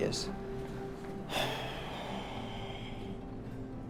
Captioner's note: sigh